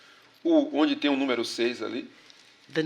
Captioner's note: speaking portuguese